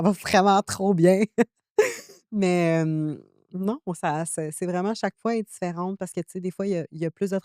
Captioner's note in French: rires